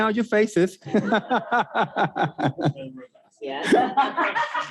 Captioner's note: laughs